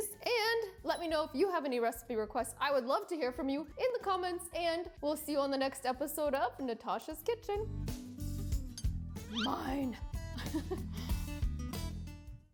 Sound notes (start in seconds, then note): 10.4 laughs; 11.0 upbeat music